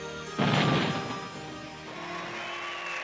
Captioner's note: bomb blast; people cheering